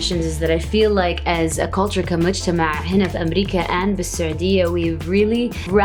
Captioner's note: speaks in foreign language